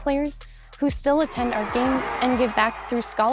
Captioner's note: crowd cheering